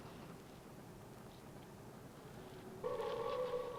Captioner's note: howling